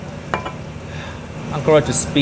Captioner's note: bottle clinking